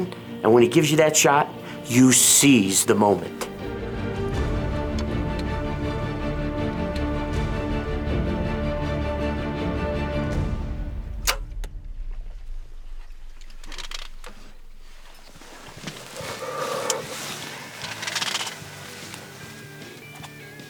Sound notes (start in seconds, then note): 3.3 dramatic music; 11.1 arrow clicks; 16.4 huffing